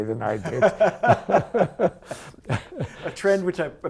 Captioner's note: laughing